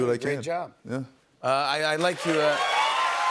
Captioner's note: cheers and applause